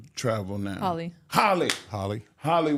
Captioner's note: claps hands